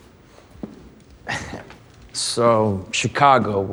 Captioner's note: chuckles